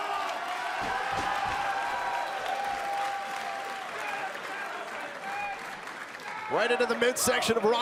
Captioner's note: crowd cheering